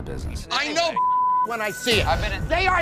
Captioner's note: beep